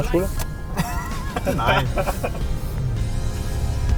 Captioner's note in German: lacht